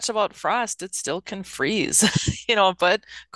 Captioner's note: laughs